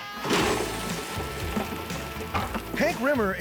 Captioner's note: crawdads flapping on table